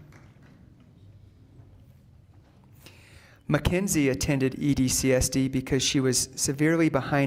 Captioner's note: applause